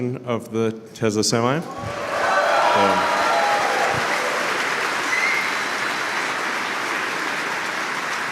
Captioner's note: Applause; 掌声